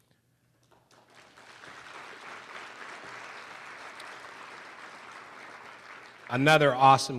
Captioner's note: applause